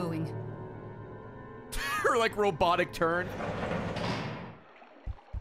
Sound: laughs

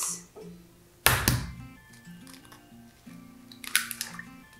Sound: eggs cracking

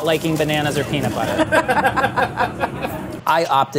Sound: both laughing

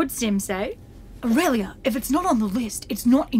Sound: Sim voice

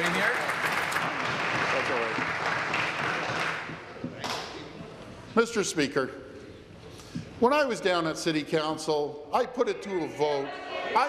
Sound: applause

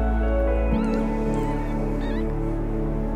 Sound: meows

